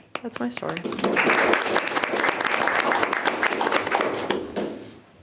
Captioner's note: participants applauding